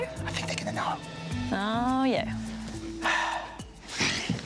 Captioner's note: sighs